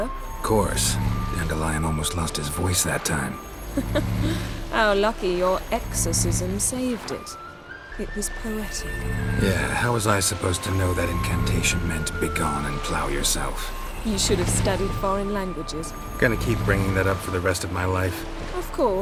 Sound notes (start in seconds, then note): 3.7 laugh